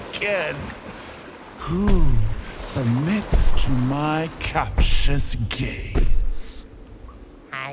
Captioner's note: thundering footfalls mark her approach